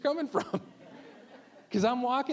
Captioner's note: all laughing